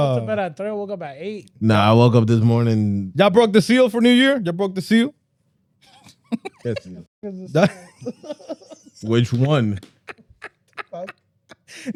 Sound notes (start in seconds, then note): 5.9 laughter; 11.1 laughter